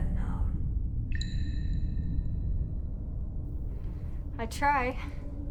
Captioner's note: water drips